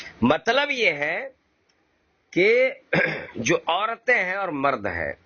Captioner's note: clear their throats